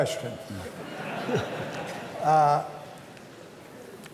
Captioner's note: laughter